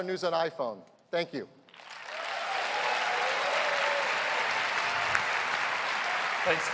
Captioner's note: cheers and applause